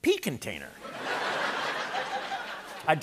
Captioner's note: laughter